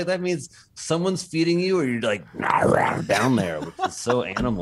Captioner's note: laughter